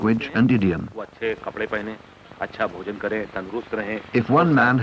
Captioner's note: non-English speech